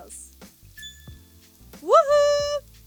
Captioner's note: eye tinkles